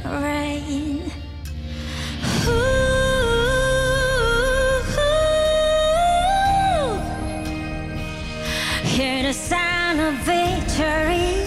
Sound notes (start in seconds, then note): 2.0 Humming